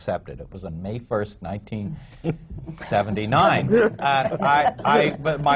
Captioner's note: laughter